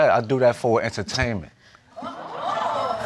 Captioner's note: audience exclaims